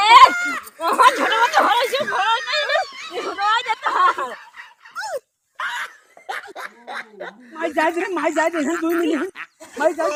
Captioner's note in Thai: เสียงหัวเราะ